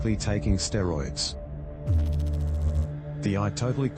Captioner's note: electrical noise